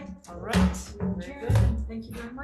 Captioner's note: gavel clacking